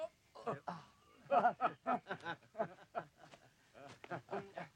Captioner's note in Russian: смеются